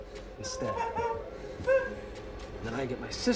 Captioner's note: Sara crying